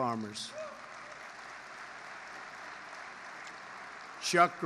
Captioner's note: applause